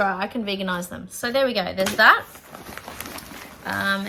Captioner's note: bag rustles